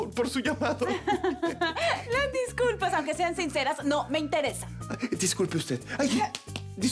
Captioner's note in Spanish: Risas